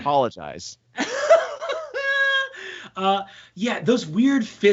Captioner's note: laughing